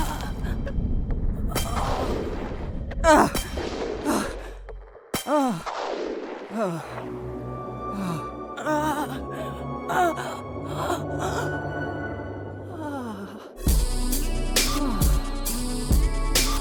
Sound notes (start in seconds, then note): 1.0 thunder claps; 12.7 old woman sighs; 13.6 upbeat music